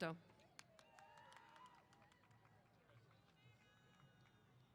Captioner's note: applause